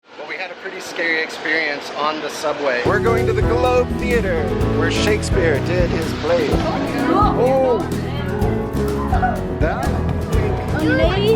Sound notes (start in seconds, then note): 6.9 exclaims